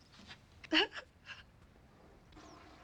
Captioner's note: laughs; toilet flushes